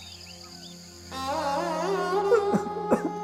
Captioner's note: crying over mother's death